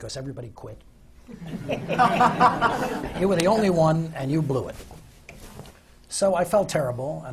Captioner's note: laughter